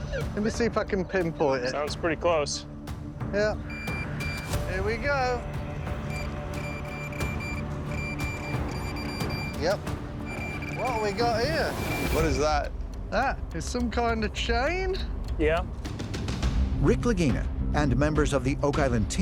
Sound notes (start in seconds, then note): 3.2 device beeping; 6.0 device beeping rapidly